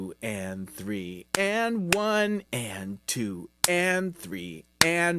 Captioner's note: clapping; clapping